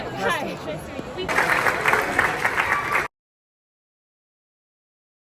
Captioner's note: audience applause